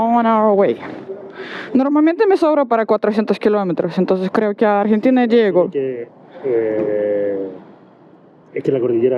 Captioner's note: in Spanish